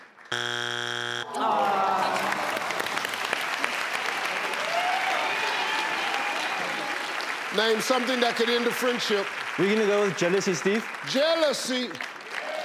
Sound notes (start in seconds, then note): 0.3 electronic buzzing; 1.2 audience groaning; 2.3 audience clapping; 12.4 audience clapping